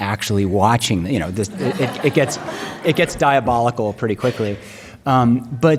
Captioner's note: laughs